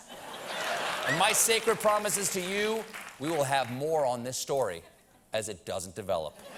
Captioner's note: laughter